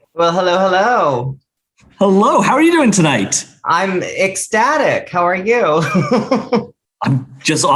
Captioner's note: laughs